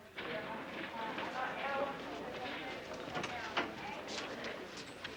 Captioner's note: people chattering